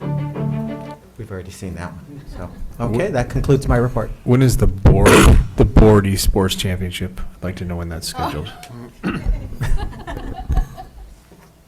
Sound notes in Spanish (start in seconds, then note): 9.1 risas